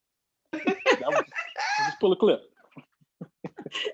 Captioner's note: all laughing